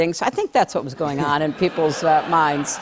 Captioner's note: laughter